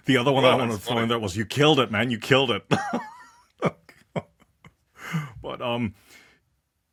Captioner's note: laugh